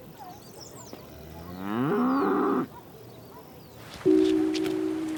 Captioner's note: the long mooning of a cow; calm piano music